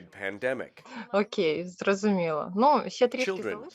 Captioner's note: speaks in foreign language